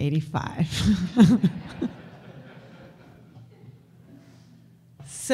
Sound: audience laughter

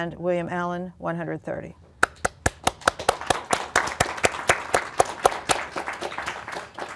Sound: applause

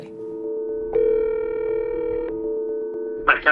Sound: phone ringing

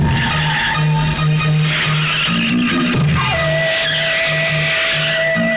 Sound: tires squealing

